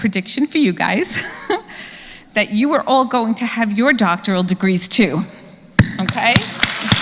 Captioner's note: laugh; applause